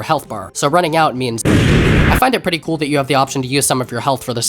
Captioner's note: explosion